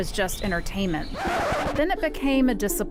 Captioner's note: record scratch